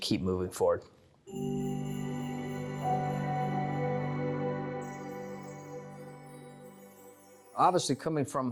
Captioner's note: chime Sound